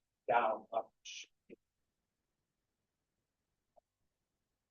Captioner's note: man chattering